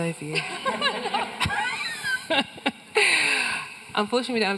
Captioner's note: everyone laughing